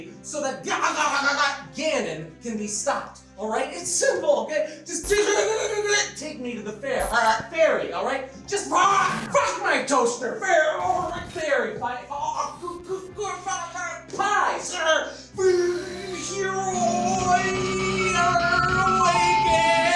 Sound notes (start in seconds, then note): 0.8 glitching; 5.4 glitching; 10.7 glitching sounds